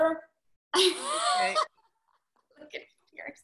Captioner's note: laughing